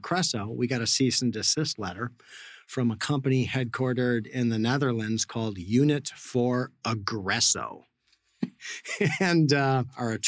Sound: laughs

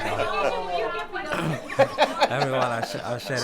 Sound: laughing

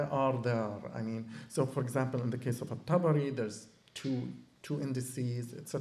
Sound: non-english

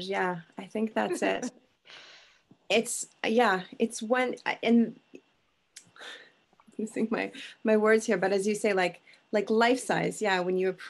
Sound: stuttering

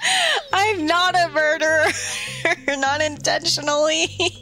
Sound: laugh

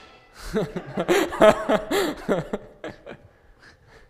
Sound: audience laughing

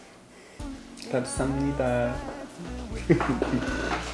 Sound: chuckles

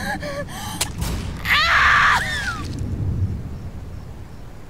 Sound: Veronica screaming

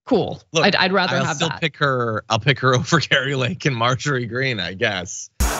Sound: laugh

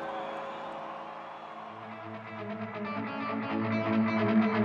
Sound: fans cheering; guitar music

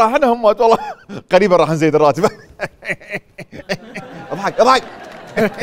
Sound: laughs

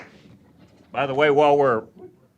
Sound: applause

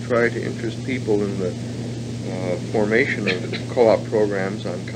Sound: coughs

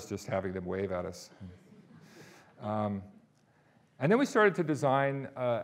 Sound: audience laughing

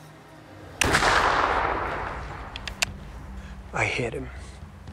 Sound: gunshot

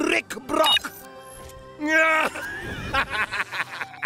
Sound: laughing

